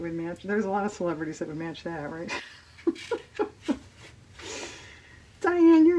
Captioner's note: laughs